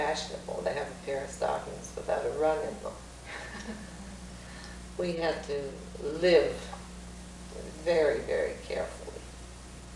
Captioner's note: laughs